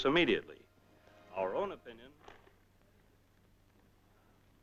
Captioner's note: radio dies out